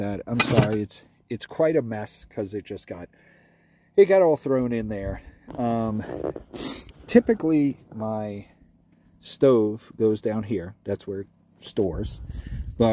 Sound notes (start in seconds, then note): 6.3 sniffs